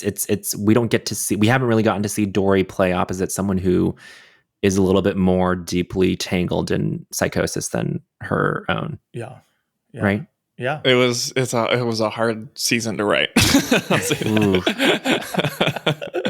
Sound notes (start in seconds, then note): 13.4 charles and taran laugh; 13.4 chuckles